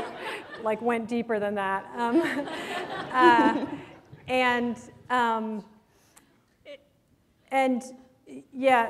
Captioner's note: laughter